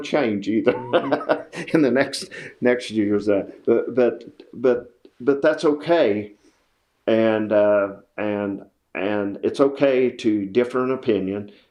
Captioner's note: laughs